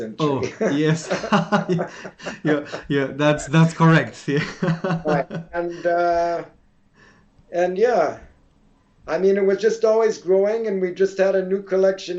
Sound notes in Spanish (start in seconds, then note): 0.2 Risas